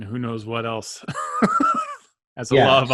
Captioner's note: laughs